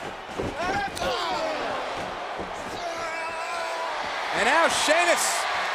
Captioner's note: Sheamus yelling